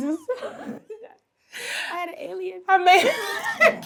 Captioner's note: Treasure laughs; laughs